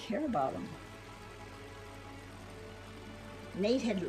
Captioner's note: plane engine roaring